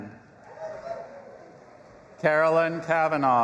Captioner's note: audience applauding and cheering